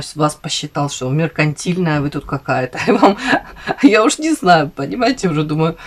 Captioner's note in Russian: смех